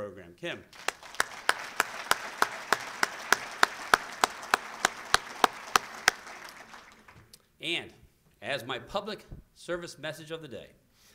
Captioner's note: applause